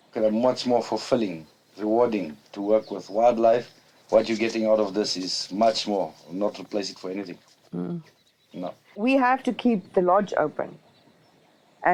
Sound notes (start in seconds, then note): none